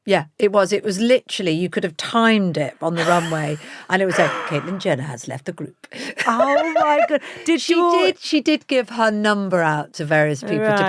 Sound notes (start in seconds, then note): 6.1 Kate laughs; 6.2 laughs